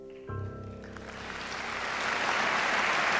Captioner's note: applause